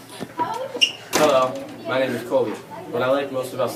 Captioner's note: door thuds